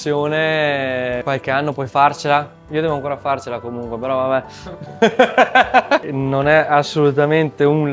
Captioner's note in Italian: risate